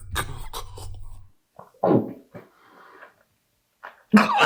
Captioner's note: Chuck gasping